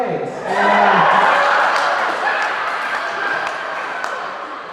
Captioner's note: audience cheering